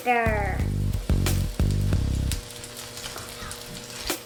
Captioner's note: oil sizzling